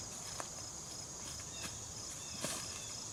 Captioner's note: walking on leaves